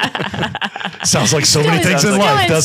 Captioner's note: laughing